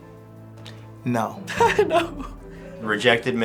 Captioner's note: laughing